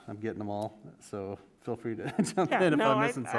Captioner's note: laughs